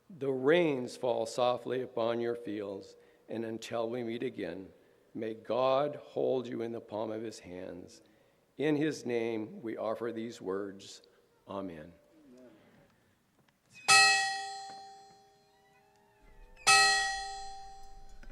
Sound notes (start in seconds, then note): 14.4 bell ringing